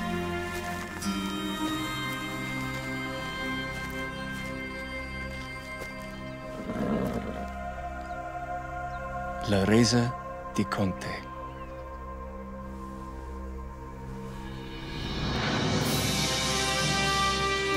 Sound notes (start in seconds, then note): 9.8 speaking in foreign language; 15.7 upbeat orchestra music